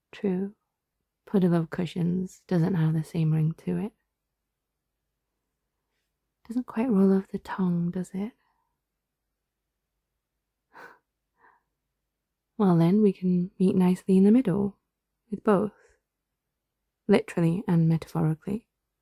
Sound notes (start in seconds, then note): none